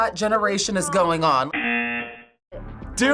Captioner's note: buzzer